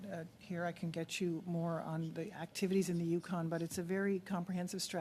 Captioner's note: speaking French